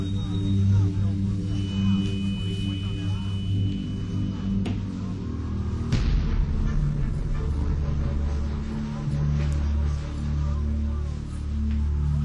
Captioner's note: humming noise